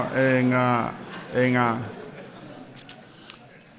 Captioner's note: laughter